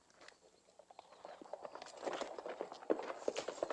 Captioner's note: horses trotting